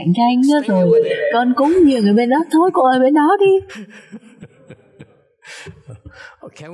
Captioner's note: laughter